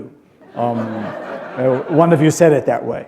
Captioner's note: laughter